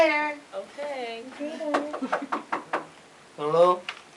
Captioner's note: knocking sound on door